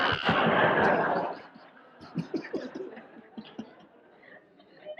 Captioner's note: audience laughs